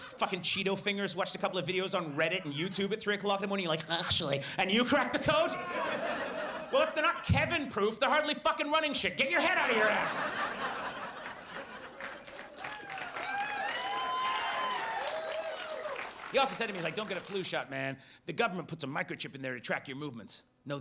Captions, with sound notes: "fuckin' Cheeto fingers, watched a couple of videos "on Reddit and YouTube at three o'clock in the morning, "and you're like, "Actually," and you cracked the code? (audience laughs) Well, if they're not Kevin-proof, they're hardly fucking running shit. Get your head outta your ass. (audience laughs and applauds) He also said to me, he's like, "Don't get a flu shot, man. "The government puts a microchip in there "to track your movements."